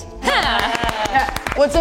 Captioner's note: aerialists cheering